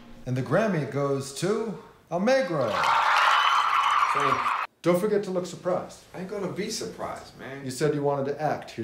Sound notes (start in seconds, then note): 2.6 audience cheering and clapping